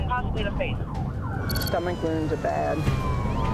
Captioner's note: siren wailing; beeping